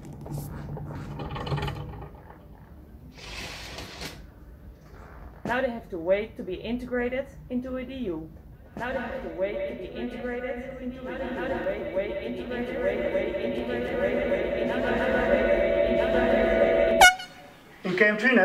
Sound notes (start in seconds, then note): 16.9 doot